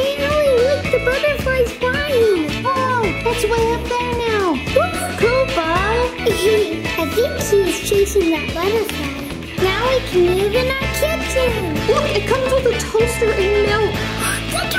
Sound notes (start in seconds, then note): 6.4 laughter